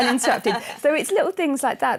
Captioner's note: laughs